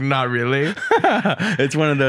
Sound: laughs

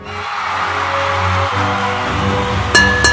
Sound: crowd cheering

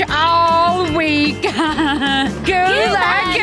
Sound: laughing

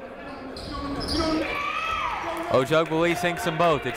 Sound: shouting

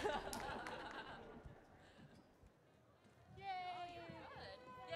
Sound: and audience laughs

